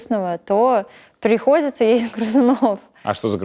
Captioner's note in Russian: смеётся